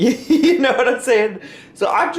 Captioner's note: laughs